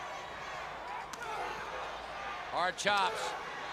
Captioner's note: crowd chatter